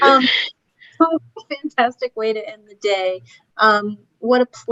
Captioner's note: laughter